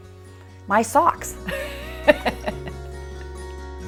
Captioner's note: laughs